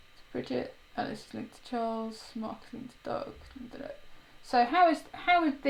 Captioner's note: mumbles loudly